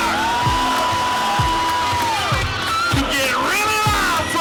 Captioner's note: cheering